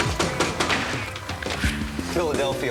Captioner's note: knocking on door